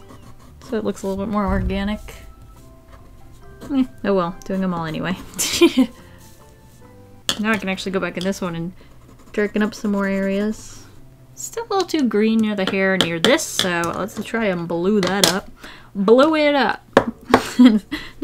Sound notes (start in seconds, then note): 5.5 laughs; 17.1 tap, tap, laughs